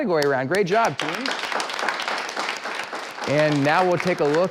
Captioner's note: clapping